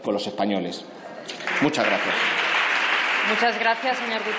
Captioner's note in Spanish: Aplausos